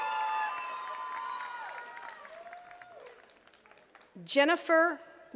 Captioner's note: attendees cheering and clapping